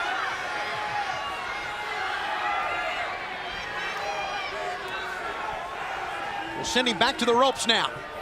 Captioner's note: crowd chatter